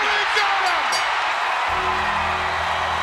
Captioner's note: audience cheers; bell rings; ominous music